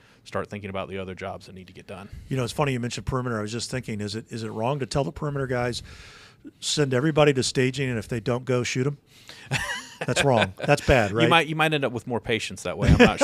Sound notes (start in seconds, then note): 9.4 panelists laughing; 12.8 panelists laughing